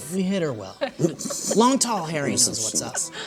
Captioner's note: laughter